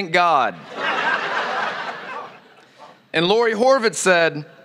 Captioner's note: laughter